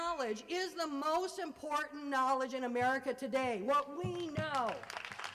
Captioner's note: applause